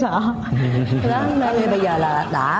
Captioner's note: laughs